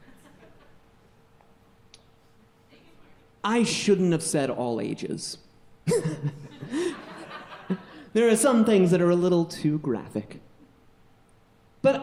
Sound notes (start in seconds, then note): 0.0 audience chuckling; 5.9 audience chuckling; 5.9 laughs